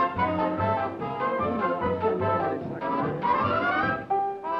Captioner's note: whispering